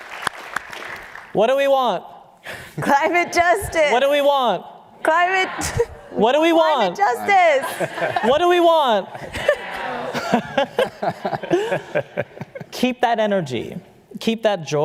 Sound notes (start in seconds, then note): 0.0 applause; 5.1 laughter